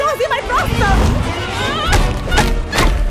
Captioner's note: shouting, groaning